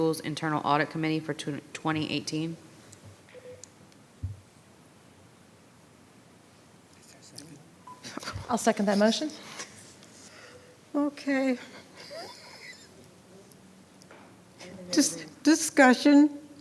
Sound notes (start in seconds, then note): 11.6 laughing; 13.6 speaking faintly